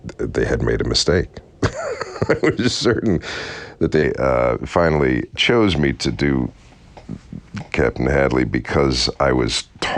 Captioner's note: laughter